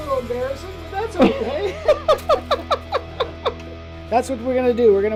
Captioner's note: both laughing